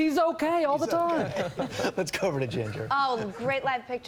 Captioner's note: laughter